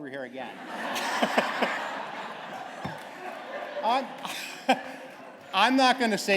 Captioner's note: laughter